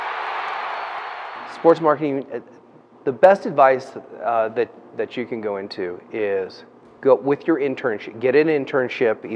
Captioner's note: cheering